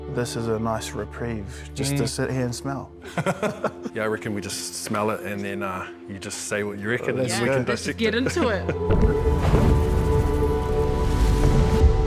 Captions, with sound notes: This is a nice reprieve, just to sit here and smell. - (LAUGHS) Yeah, I reckon we just smell it and then you just say what you reckon, eh? - Yeah, let's just get into it. (HAUNTING MUSIC)